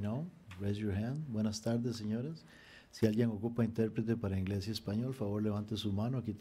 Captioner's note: speaking foreign language